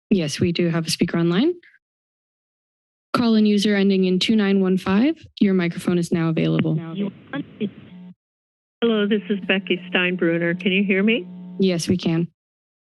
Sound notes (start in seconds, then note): 1.8 silence; 7.0 machine feedback